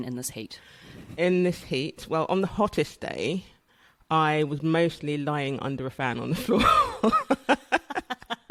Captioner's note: laughs